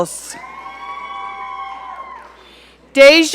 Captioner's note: audience cheering